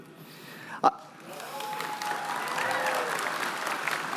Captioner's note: cheering